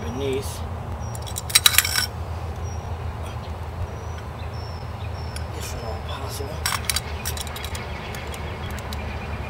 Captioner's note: snips heard